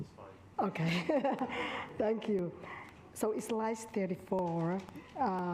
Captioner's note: laughs